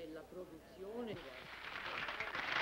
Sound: hands clapping

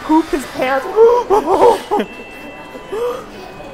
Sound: gasping

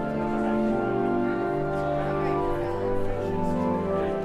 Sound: cheerful organ music; crowd murmuring

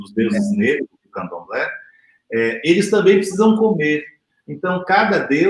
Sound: speaks portuguese

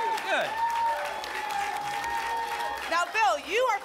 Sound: applause and cheering cont

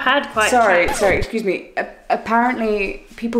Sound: record scratches

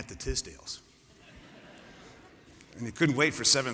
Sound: laughter

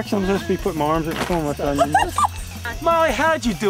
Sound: paper rustling

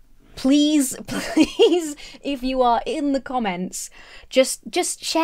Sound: laughs

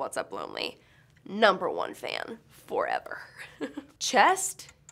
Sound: laughs

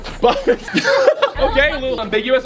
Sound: laughs

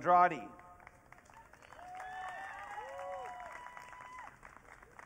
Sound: audience cheering

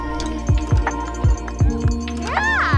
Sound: bell ringing

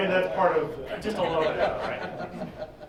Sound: laughing

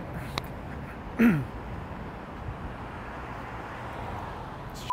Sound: clears throat

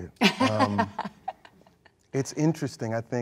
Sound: laughs

